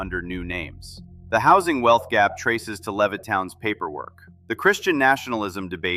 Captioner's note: thoughtful